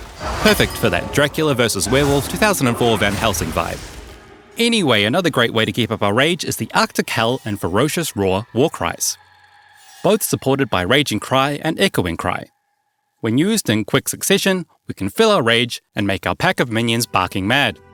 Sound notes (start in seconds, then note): 10.3 raging cry; 11.2 echoing cry